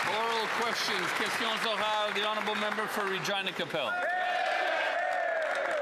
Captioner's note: some Applause